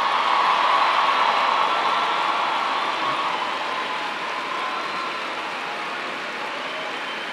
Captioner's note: cheers and applause